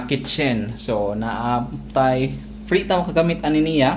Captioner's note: washing machine